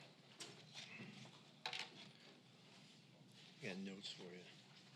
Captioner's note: items clattering on mic stand